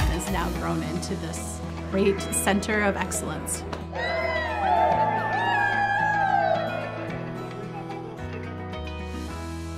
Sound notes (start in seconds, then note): 3.9 cheers